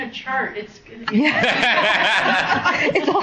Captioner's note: laughs